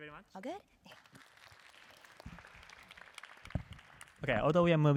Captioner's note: applause